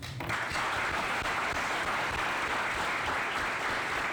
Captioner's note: applause